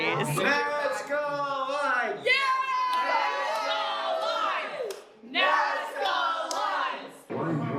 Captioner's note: chanting